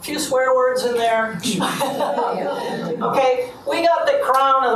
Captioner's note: laughs